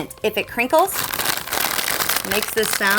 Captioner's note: crinkling Bag